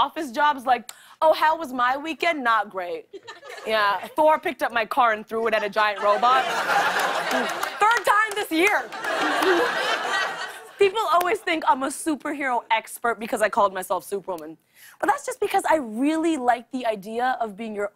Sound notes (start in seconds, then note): 8.8 laughter